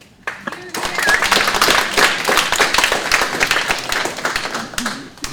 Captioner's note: audience clapping